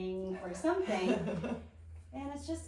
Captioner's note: laughing